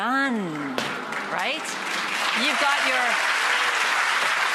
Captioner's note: audience applause